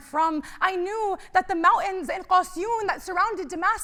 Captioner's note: speaking arabic